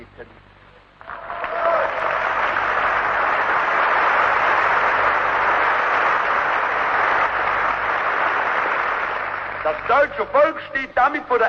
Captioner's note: applause